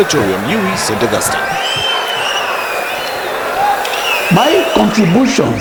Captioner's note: wild applause and cheering for 22 seconds